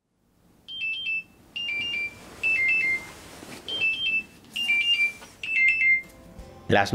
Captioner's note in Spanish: Despertador